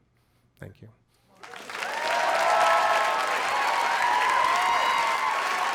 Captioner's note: crowd applauds